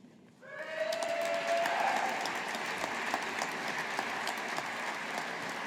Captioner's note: audience applauding